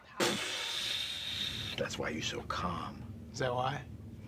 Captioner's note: swoosh